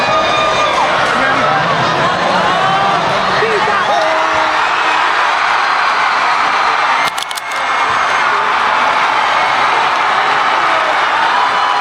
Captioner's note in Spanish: ovación